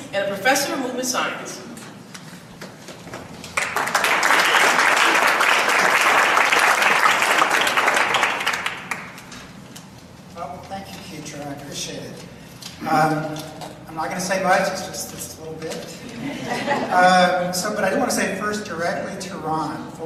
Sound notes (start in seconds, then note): 3.5 audience applauds; 16.0 audience laughs